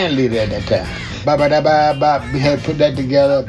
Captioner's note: vocalizes